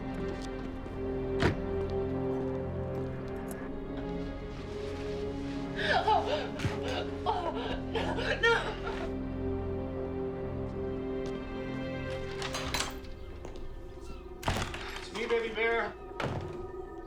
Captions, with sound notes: ( crying ) NO. IT'S ME, BABY BEAR.